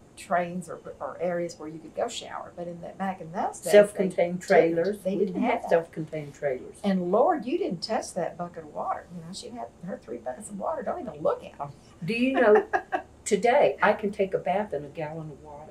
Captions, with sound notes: trains or areas where you could go shower, but back in those days they didn’t. Self-contained trailers. We didn’t have that. We didn’t have self-contained trailers. And Lord, you didn’t touch that bucket of water. She’d have her three buckets of water—don’t even look at them! (Laughs) Do you know, today, I could take a bath in a gallon of water?